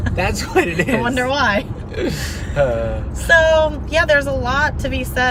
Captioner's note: laughing; laughs